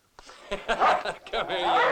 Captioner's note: laughing; dog barking